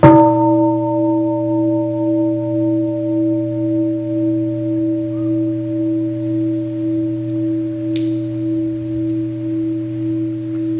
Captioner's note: gong